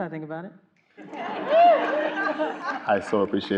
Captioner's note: everyone laughing